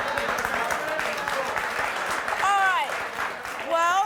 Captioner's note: crowd clapping